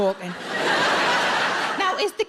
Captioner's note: audience laughs